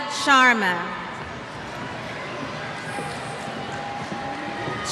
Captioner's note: cheers